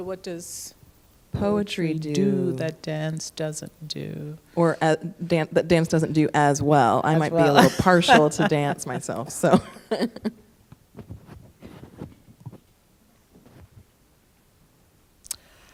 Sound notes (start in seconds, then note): 7.3 laughs; 13.1 laughs